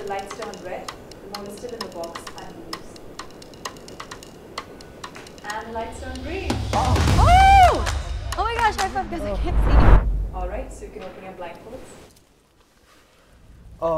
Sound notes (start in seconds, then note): 3.3 clock ticking; 7.5 noises of excitement